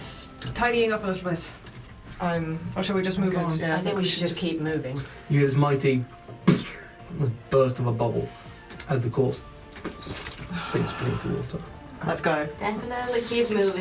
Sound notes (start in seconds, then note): 6.4 popping sound; 9.7 squelching noise